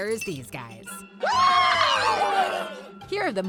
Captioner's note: cheering